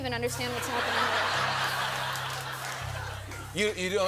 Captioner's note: laughter